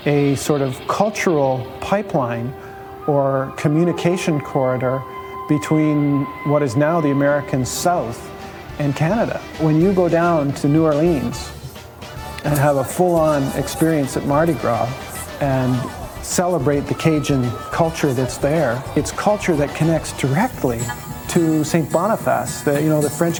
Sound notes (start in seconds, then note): 14.6 crowds laughing and cheering